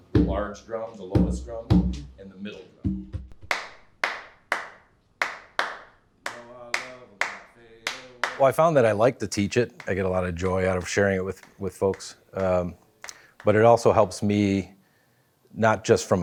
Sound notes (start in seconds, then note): 3.6 clapping